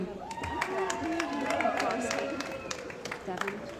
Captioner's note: cheering & Applause